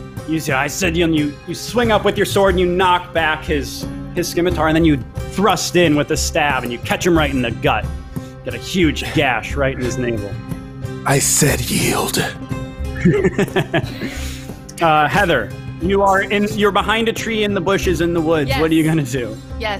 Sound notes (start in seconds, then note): 12.9 laughs